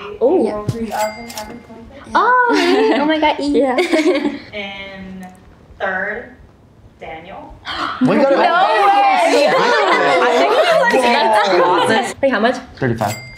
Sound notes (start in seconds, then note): 3.7 laugh; 9.1 everyone laughs